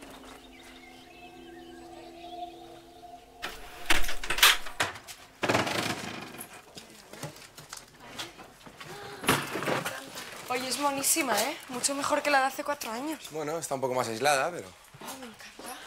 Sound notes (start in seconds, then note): 3.3 car sound; 3.4 door opening; 7.2 door slamming